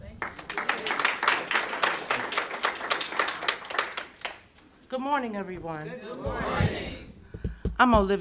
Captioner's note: applause